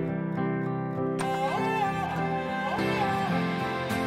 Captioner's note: Door opening